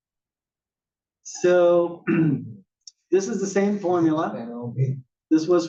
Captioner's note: cough